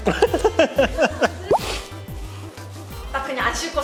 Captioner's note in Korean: 꼴깍